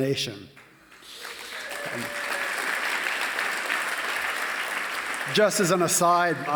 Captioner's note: applause